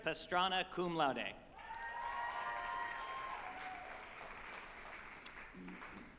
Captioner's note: group applauding and cheering